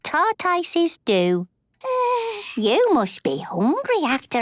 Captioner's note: yawns